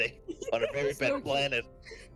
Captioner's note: laughs